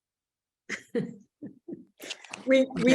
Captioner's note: laughs